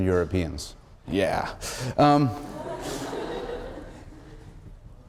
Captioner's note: laughter